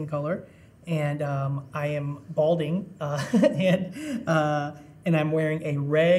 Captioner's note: chuckling